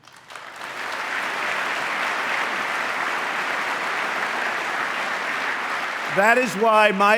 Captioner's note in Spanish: aplauso